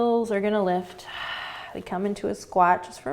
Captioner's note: exhaling